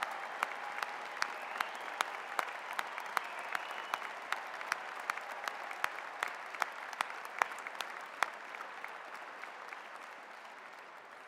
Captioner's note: applause